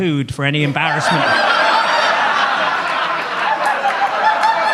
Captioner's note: audience laughs